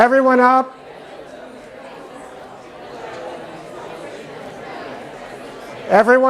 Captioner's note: chatter